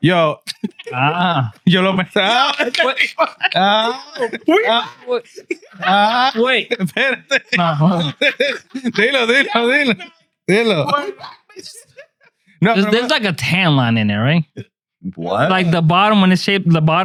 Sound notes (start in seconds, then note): 2.3 laughing; 2.3 speaking In Foreign Language; 5.6 laughing; 7.6 speaking In Foreign Language; 12.5 laughing